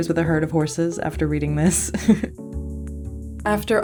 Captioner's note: laugh